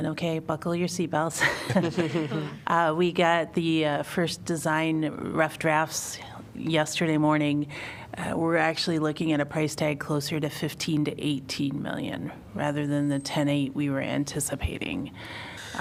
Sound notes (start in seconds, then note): 1.4 laughter